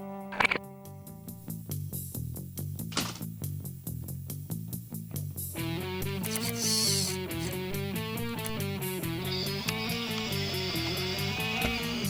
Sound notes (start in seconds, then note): 0.4 gun clicks; 2.7 gun clatters; 2.7 tense music; 8.9 wheelchair whirring